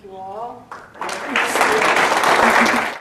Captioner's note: applause